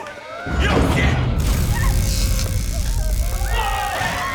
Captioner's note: explosion